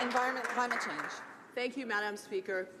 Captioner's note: some Applause